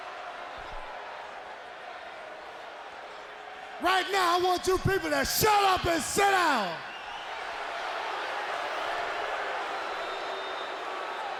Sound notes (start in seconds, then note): 7.2 audience roars